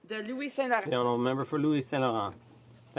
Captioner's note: speaking French